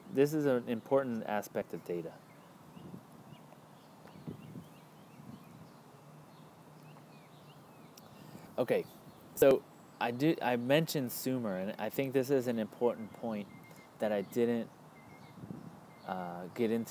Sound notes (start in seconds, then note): 3.4 pause